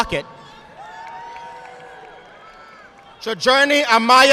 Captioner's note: audience applauding